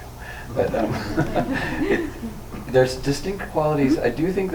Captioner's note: laughs